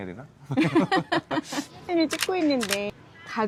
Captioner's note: เสียงหัวเราะพร้อมกัน